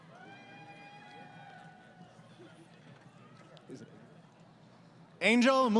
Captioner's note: crowd Cheering